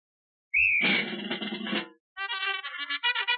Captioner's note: whistle blows; bugle call